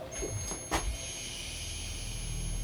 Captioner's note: REM-pod beeping; slow foreboding music